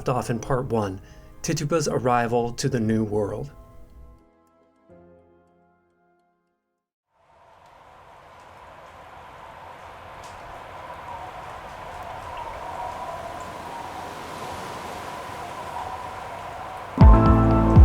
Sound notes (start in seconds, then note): 3.4 sounds of wind howling, ocean waves rolling